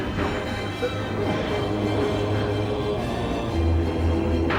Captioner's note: chanting voices